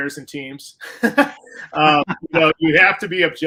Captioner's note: laughter